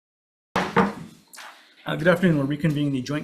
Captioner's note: gavel taps